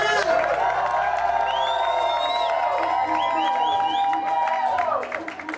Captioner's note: crowd cheering and clapping